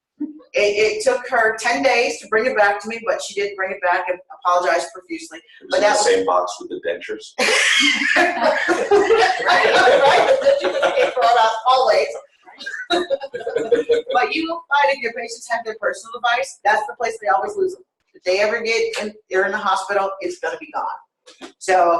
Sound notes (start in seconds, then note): 7.4 laughter